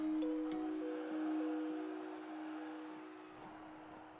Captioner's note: audience cheers